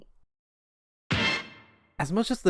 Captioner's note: swag hit sound